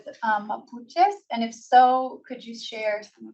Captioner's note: foreign language